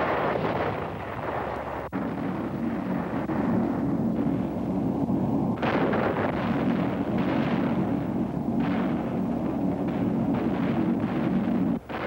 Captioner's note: explosions and gunfire